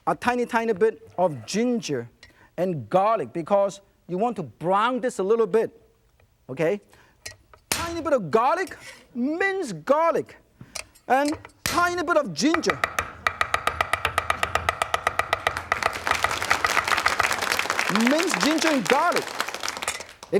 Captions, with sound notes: A tiny, tiny bit of ginger and garlic because you want to brown this a little bit. Okay. Tiny bit of garlic, minced garlic, and tiny bit of ginger. (knife chopping) (audience clapping) Minced ginger and garlic.